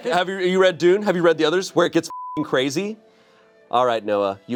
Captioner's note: beep